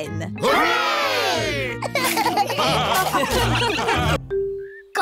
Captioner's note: laughter